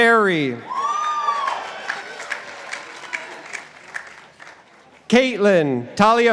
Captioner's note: participants applauding